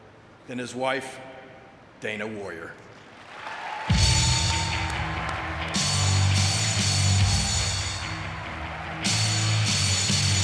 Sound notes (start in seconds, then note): 2.9 audience clapping; 3.9 upbeat music